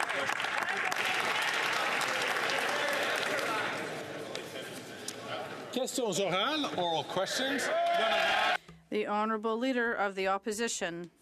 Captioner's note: some Applause